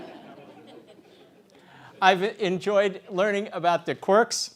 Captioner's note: laugh